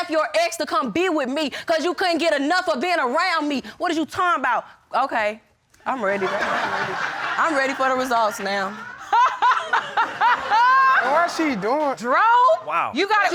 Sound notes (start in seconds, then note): 6.1 audience laughing; 9.5 laughing